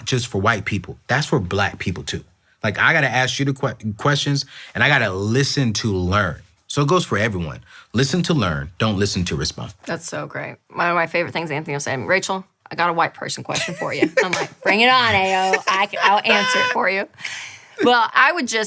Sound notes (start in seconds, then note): 13.6 laughing; 15.6 claps; 16.8 laughing